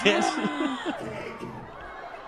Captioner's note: laughs; gasp